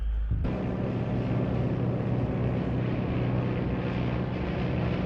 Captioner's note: airplane engine roaring